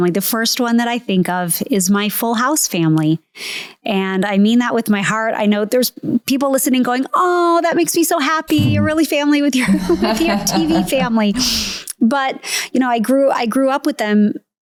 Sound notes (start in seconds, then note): 9.6 laughing